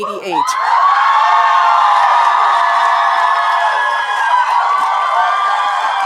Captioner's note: audience cheering and applauding